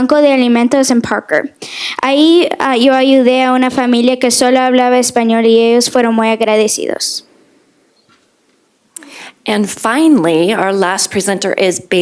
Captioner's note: speaking foreign language